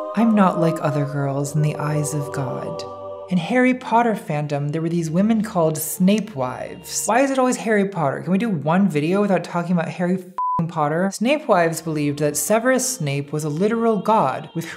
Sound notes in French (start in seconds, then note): 10.4 bip